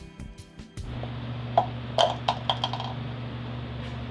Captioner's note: cup clatters on floor; fan blowing